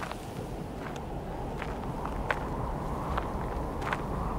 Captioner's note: wind howling